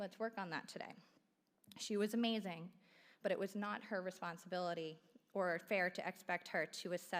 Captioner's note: none